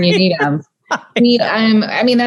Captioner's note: laughing